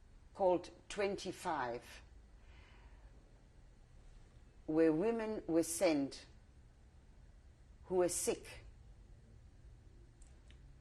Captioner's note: pauses for 3 seconds